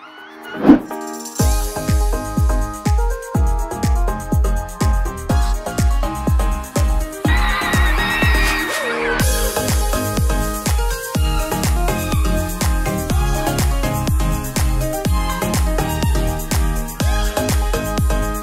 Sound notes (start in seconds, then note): 0.6 upbeat music; 7.3 crowd cheering; 9.0 upbeat music intensifies